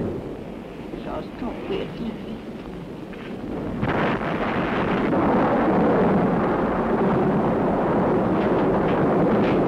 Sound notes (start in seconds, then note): 4.0 thunderstorm